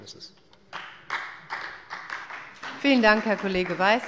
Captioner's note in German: Beifall bei Abgeordneten der SPD